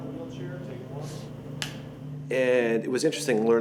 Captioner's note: slate snaps